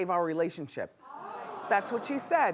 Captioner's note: audience murmuring